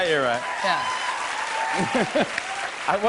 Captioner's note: cheers and applause